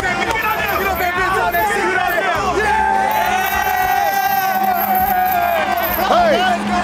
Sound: cheering

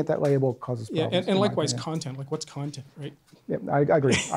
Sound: voiceover

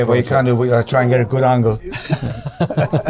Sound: laughing

